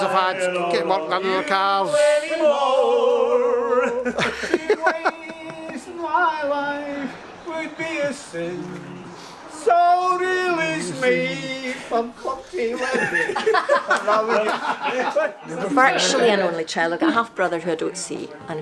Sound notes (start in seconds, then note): 4.2 laughs; 12.2 voice cracks; 13.2 laughs